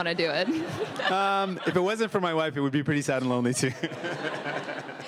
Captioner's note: laughter